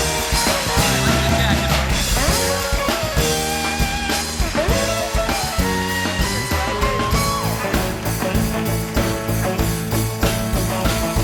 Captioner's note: applause